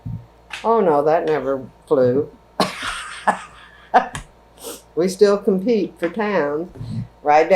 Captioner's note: laughs